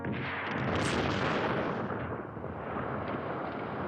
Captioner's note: explosion